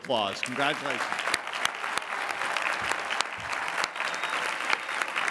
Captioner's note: applause